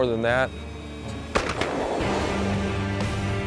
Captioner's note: gun shot